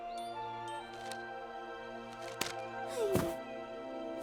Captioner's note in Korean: 펄럭이는 소리; 쿵 소리